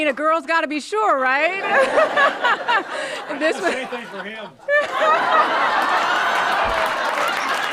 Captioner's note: applause